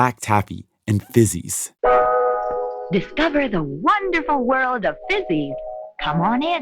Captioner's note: soundbite of archived recording